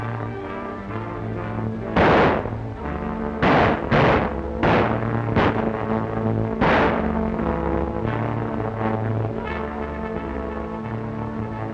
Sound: gunfire

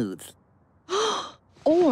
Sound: gasp

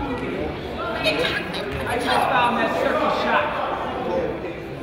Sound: crowd chatters

